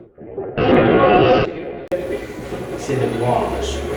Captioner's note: radio scratching; radio voice